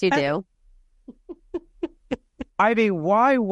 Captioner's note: laughing